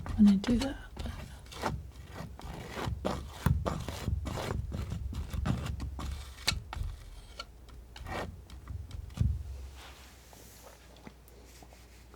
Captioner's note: scratching